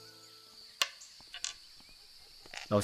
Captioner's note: clack of chess pieces being moved